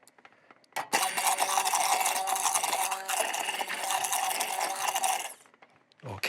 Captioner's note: blender gurgles